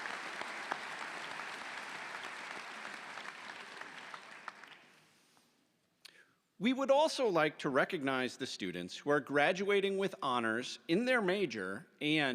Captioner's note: applause